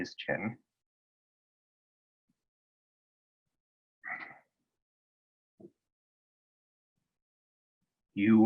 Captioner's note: pause